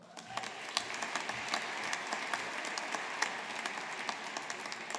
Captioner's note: audience applauding